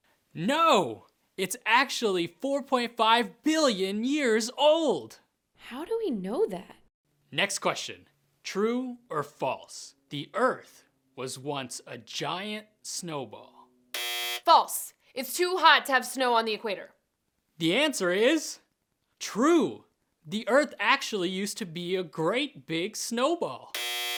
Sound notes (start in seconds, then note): 13.9 buzzer